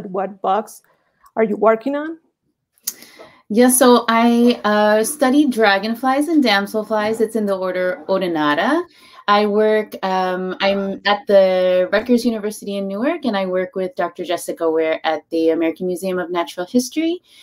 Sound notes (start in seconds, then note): none